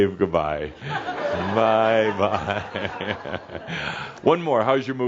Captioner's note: Adamus waves and chuckles